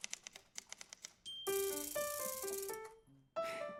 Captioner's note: piano music continues; typewriter dings and rattles rhythmically